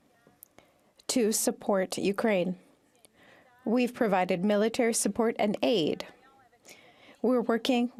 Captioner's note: speaking French